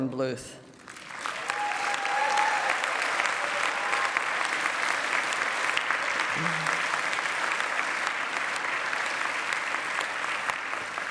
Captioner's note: applause